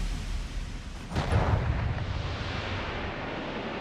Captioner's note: music stops; bang!